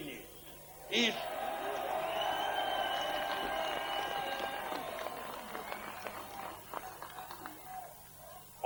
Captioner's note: applause